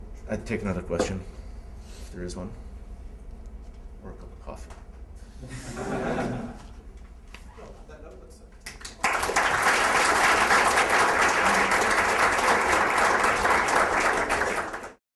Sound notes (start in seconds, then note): 5.4 laughter; 8.6 applause